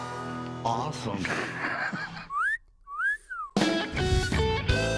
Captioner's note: wolf whistle